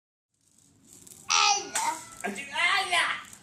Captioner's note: child shouts; adult shouts